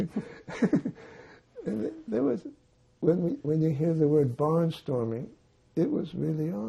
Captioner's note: laughing